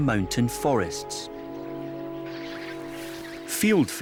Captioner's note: birds twittering